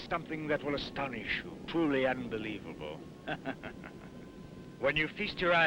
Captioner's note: laughs